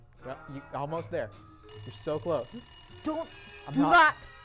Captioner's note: phone rings